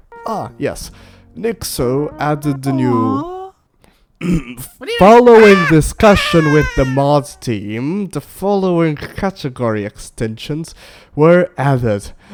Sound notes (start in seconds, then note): 7.7 screams